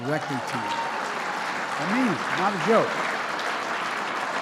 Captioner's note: applause